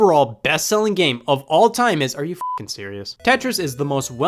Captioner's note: beep